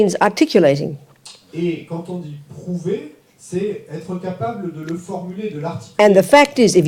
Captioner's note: French